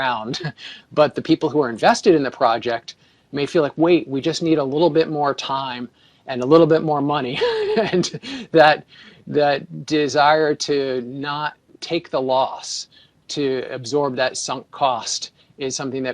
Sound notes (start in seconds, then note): 7.3 laughter